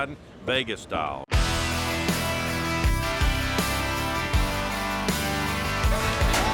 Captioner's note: crowd shouting; lively music